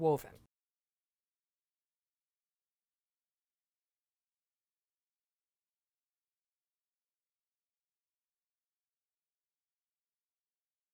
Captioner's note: no Sound Present